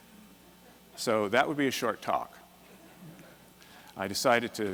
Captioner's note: laughter